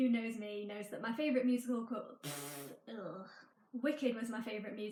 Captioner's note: blows raspberry